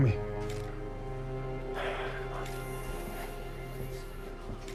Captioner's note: sighs